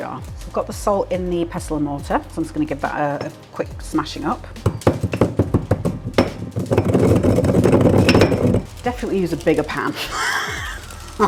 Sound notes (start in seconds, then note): 4.5 stone grinding